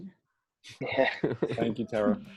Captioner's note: laughter